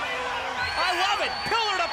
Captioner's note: crowd cheering